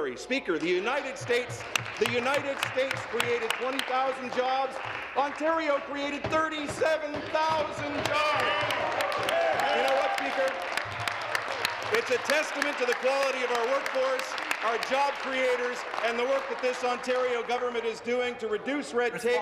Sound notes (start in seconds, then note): 11.2 some Applause